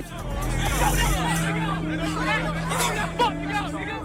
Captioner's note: crowd shouting